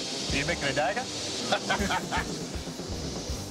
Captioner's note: laughter